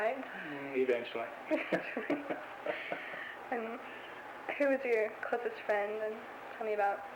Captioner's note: both laugh